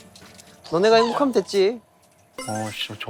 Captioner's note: laughing in real time